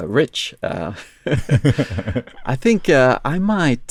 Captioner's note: laughs